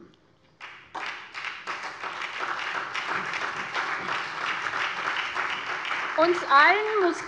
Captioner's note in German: Beifall SPD und CDU